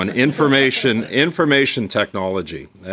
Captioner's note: laughter